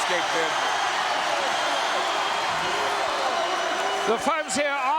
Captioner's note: audience cheering